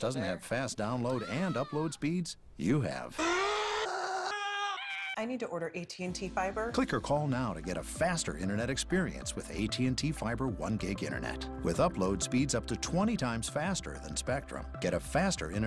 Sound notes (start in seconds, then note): 3.1 screaming